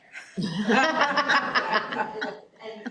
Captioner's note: laughter